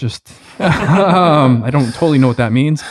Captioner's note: laughing